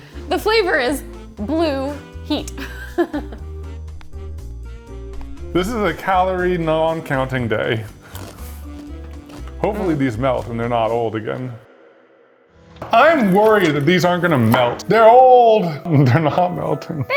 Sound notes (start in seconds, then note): 2.3 chuckles; 3.6 slow jazz music; 7.9 Takis crunching